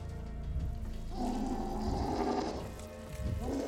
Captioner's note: roar